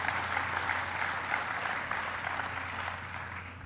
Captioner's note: applause